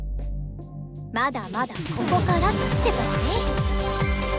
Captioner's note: sounds of failure